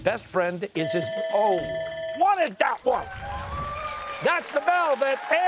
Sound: bell ringing

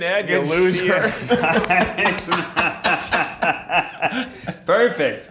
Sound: group laughs

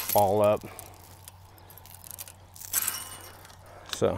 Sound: chain clinking

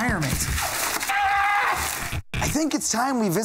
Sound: screams

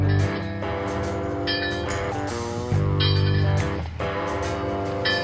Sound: upbeat music; metal clangs

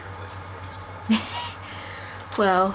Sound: chuckles

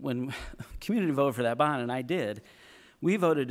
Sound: chuckle

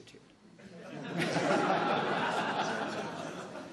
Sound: laughs

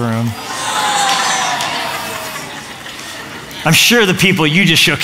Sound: groaning

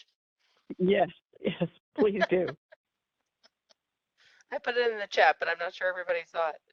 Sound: laughing

